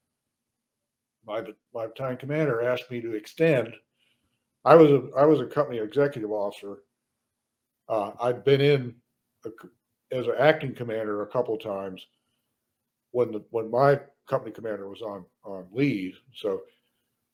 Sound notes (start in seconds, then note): none